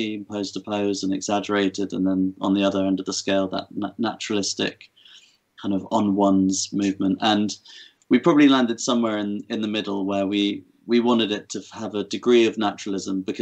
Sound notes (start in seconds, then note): none